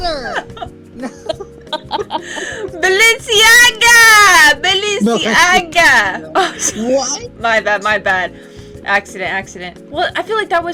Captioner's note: laughing